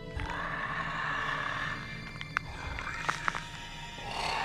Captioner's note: bones cracking; mummy snarling